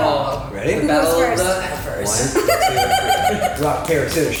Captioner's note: laughing